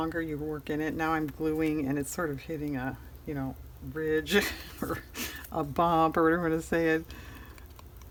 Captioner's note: laughs